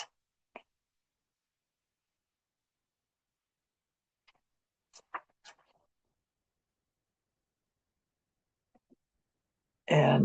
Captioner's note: pause